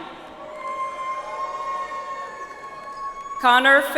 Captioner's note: audience applauds